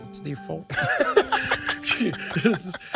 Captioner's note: both laughing